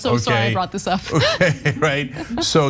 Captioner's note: laugh